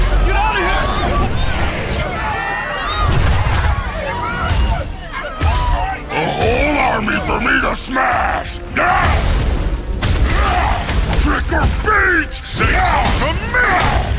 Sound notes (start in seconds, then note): 1.8 shouting; 10.3 grunts